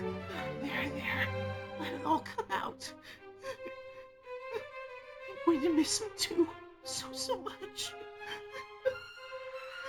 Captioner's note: sob